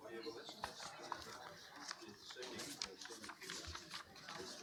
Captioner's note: paper shifting